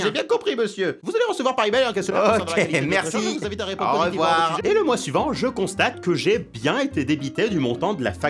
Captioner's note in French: Il continue de parler